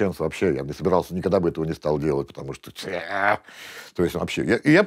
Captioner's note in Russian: звуки отвращения